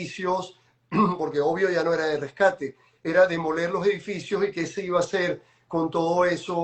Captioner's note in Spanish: carraspeo